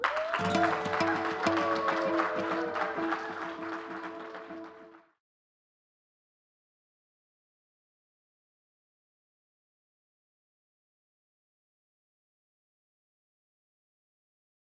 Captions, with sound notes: us instead of against us. Thank you. >> [APPLAUSE]